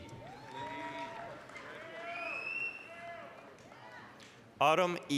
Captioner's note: applause, cheering